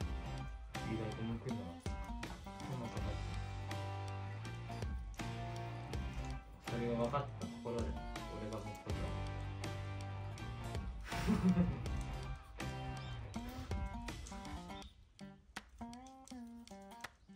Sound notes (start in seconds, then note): 11.0 laughs